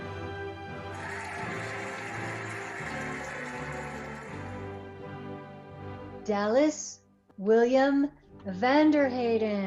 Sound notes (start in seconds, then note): 0.8 cheering and applauding